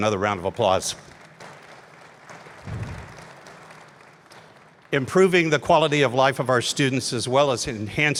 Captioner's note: applause